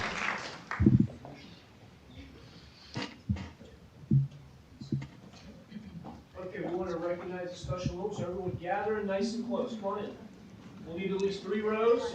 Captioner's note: applause